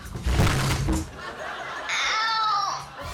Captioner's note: girl thudding; audience laughing